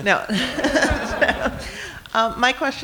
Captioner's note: laughing